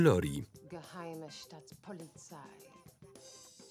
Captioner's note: speaking German